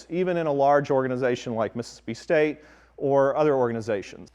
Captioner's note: none